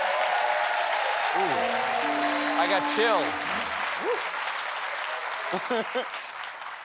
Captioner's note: applause